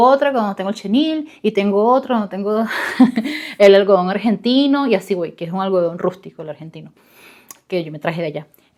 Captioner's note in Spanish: risas